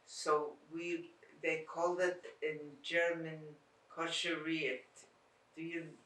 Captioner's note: non-english